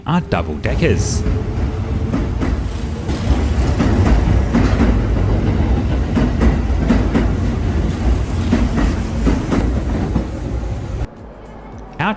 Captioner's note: train sounds